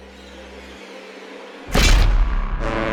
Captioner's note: crash; boat horn